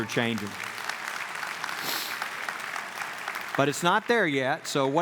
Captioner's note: clapping